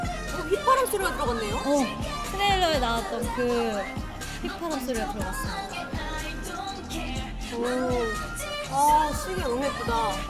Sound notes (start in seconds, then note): 3.7 the whistling